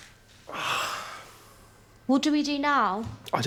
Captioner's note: Nikolai sighing